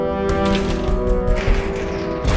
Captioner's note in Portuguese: batidas na parede frontal